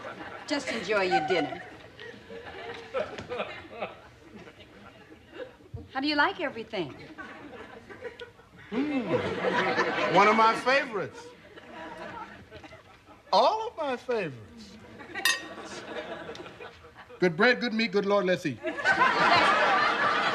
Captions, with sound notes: JUST ENJOY YOUR DINNER. HOW DO YOU LIKE EVERYTHING? MMM, ONE OF MY FAVORITES. ALL OF MY FAVORITES. [spoon clinking] GOOD BREAD, GOOD MEAT. GOOD LORD, LET'S EAT. LESTER.